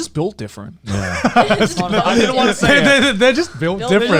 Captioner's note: laughing